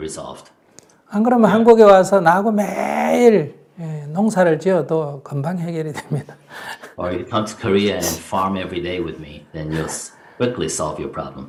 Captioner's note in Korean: 웃음